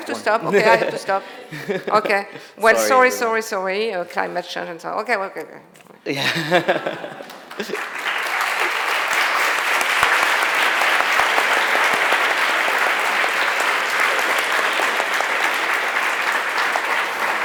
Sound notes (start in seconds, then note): 1.9 they laugh; 6.6 applause